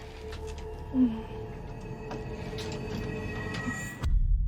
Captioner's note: Bathory sighs